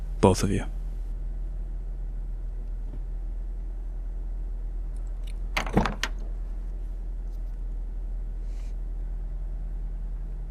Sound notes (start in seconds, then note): 5.6 car door opening